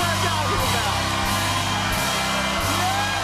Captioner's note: cheers and applause